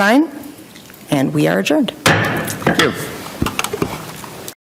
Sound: gavel taps

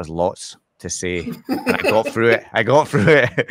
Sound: laughs

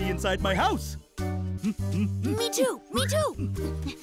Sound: grunting

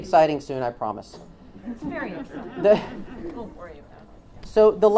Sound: laughs

